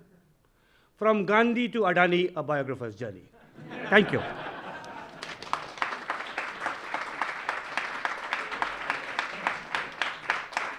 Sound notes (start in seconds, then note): 4.3 audience laughing; 4.5 audience applauding